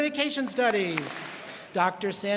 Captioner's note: students clap